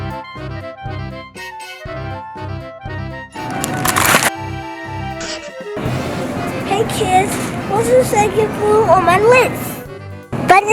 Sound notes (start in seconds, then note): 0.2 curious music; 3.4 plastic crinkling